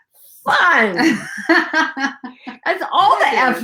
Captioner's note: laughs